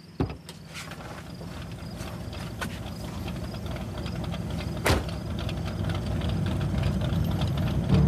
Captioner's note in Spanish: Ruido del vehículo